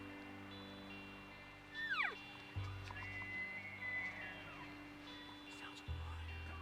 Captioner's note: elk bugling